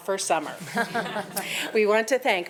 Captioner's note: attendees chuckling